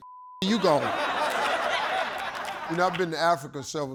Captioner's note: audience laughing